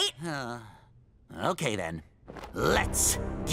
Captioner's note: sighs